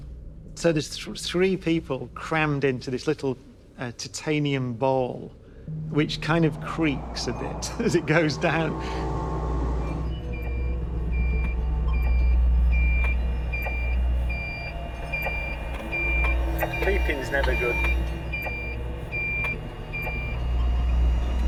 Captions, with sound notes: So there's three people crammed into this little titanium ball, which kind of creaks a bit as it goes down. (BEEPING) Beeping's never good. (BEEPING CONTINUES)